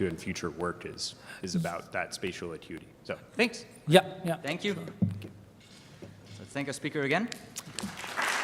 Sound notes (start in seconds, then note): 7.7 audience applauds